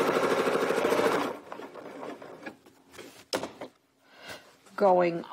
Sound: sewing machine whirring

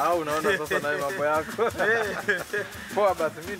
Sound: laughing

